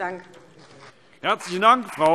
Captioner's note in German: Beifall CDU und BÜNDNIS 90/DIE GRÜNEN